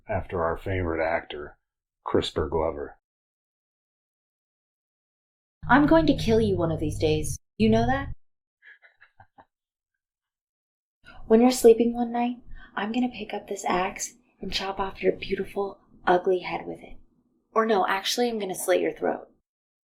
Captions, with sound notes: after our favorite actor, Crisper Glover. I'm going to kill you one of these days. You know that? [giggles] When you're sleeping one night, I'm going to pick up this axe and chop off your beautiful, ugly head with it. Or no, actually, I'm going to slit your throat.